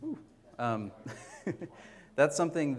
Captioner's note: mike feedback